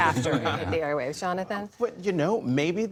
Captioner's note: laughter